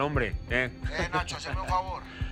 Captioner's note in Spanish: Risas